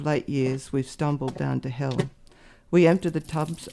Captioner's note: footsteps; running water